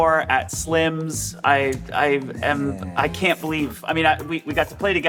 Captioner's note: stammering